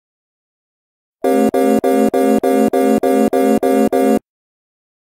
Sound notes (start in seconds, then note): 1.2 sound of alarm